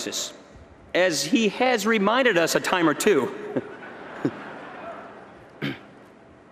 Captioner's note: laughter